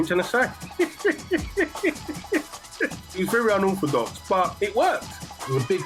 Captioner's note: laughs